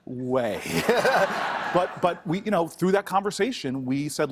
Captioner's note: laughter